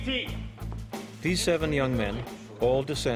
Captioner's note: voiceover